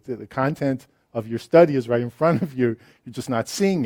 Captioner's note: laughs